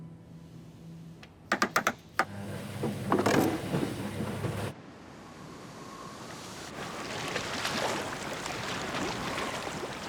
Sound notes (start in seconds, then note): 2.7 machine starts